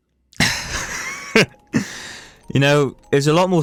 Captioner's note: laughter